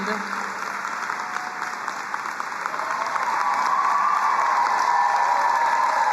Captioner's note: crowd cheering and applauding